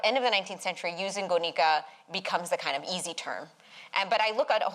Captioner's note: non-english